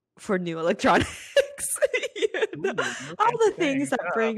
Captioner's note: laughs